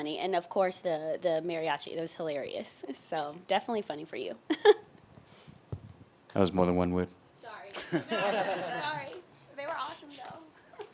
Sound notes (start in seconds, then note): 4.5 giggling; 7.7 laughing